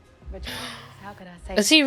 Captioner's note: gasp